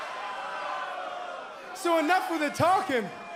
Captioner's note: crowd cheering